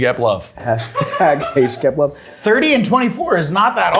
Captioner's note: people laughing